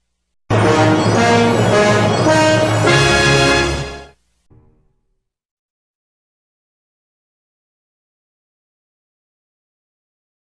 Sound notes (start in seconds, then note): 5.2 silence